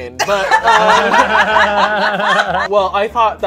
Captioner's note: friends laughing